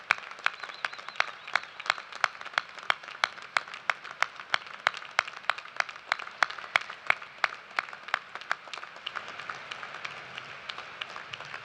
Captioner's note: cheers and applause